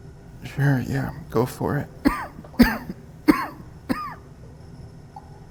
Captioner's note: coughs